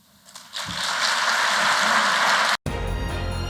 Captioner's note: applause